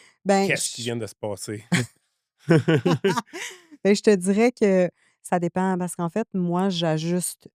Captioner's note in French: rires